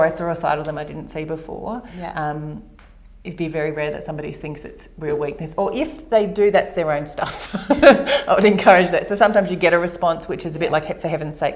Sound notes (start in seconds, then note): 7.4 laughs